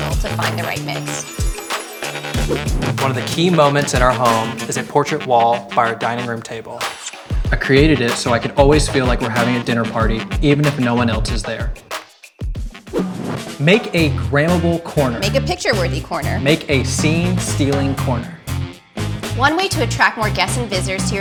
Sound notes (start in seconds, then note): 0.9 words chiming; 2.8 screen whooshing; 6.8 lips smacking; 12.9 screen whooshing